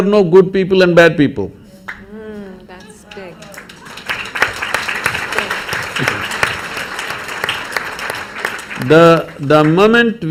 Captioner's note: applause